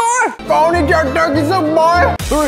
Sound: speaks gibberish too

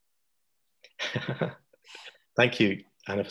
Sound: laughs

